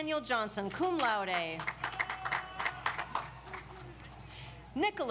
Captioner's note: audience applauds